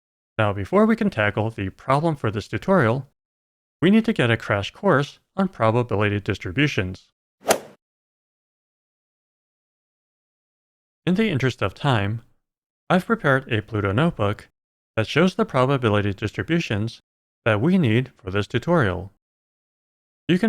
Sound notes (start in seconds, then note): 7.5 golf ball hit sound